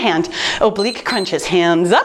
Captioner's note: timer beeps